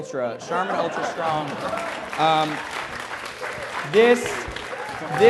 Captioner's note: applause